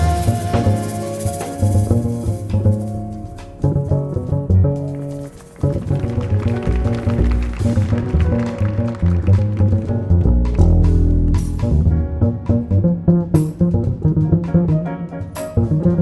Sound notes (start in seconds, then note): 4.9 audience applauding; 10.5 mid tempo jazz music continues